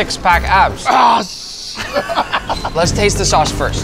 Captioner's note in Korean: 웃음